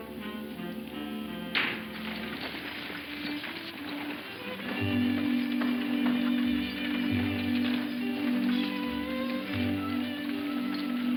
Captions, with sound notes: This desert is so wide and flat, and is so smooth and you find the only chuck hole in the whole desert! (man whistling) (intense music)